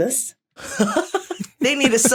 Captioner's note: giggles; guffaws